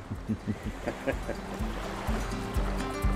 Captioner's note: laughing